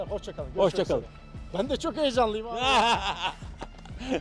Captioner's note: laughs